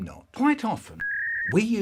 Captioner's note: dial-up internet sound